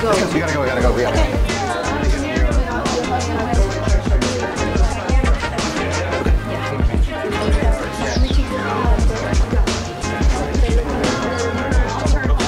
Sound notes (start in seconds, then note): 3.5 smooth music continues; 3.5 staffers chattering